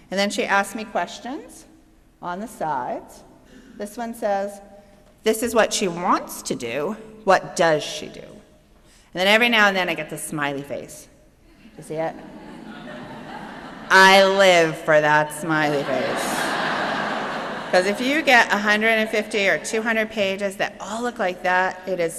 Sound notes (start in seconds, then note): 12.2 chuckling; 15.7 laughter